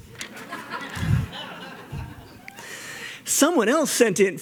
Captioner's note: laughter